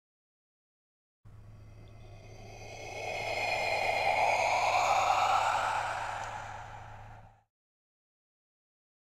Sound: sound of ghost breath

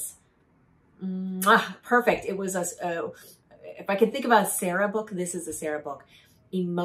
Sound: mwah

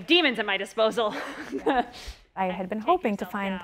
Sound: laughs

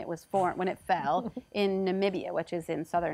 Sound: giggles

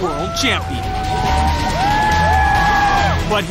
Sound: cheers and applause

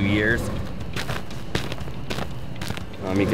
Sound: ice and snow crunching on roof

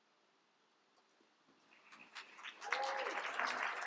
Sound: applause

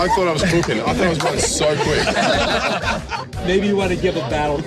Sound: all laughing

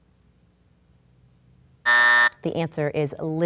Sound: buzz

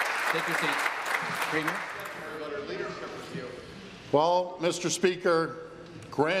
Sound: applause

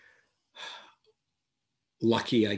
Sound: sighs

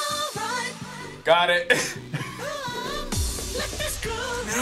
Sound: laughing

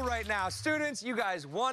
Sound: cheers and applause

